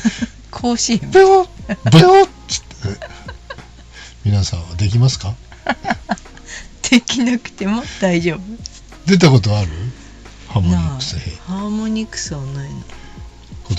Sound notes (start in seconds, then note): 2.5 laughs